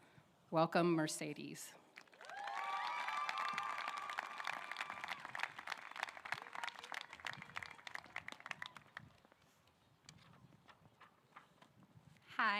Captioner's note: applause